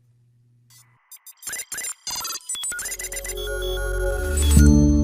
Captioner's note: console beeping; gentle music